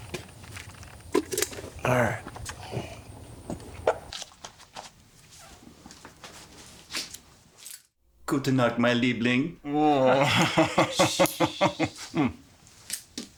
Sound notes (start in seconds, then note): 8.3 soldier speaking German; 9.7 Koch laughing